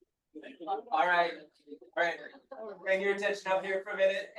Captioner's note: people chattering distantly